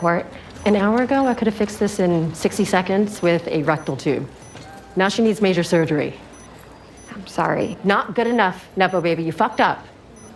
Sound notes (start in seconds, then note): none